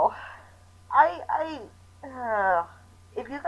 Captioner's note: groans